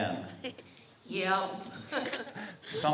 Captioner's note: giggle